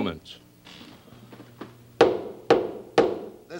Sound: gavel pounding

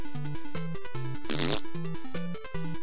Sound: fart noise

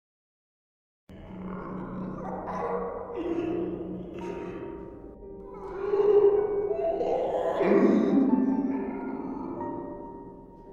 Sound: sound of horror mix

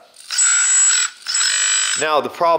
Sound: whirring

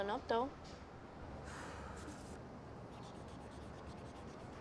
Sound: Tyra sighs

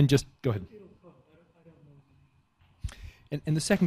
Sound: faintly speaking

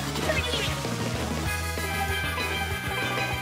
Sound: happy Harmony sounds

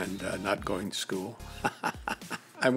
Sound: laughs

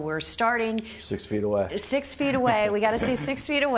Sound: chuckling

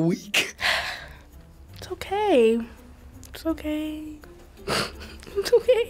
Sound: sighs; sniffs

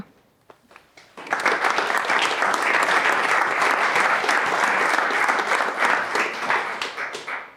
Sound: applause

